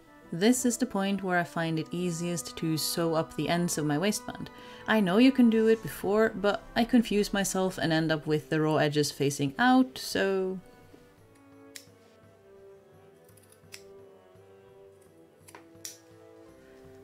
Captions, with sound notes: This is the point where I find it easiest to sew up the ends of my waistband. I know you can do it before, but I confuse myself and end up with the raw edges facing out… so… [Snip] [Snip] [Snip]